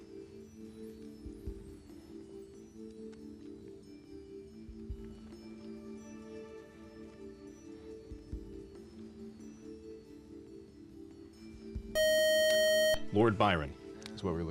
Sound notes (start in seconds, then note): 11.9 time up buzzer